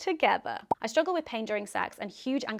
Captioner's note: popping